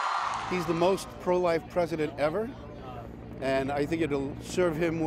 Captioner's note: cheers and applause